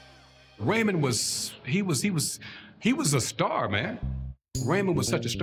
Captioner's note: stammers